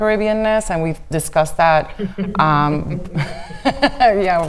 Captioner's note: women laughing